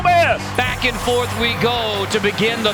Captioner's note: voiceover